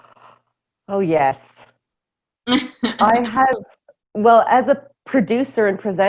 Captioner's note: laughter